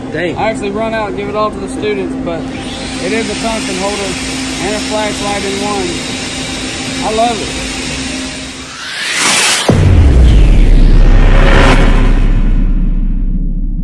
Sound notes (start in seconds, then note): 9.0 whirring; 10.7 explosion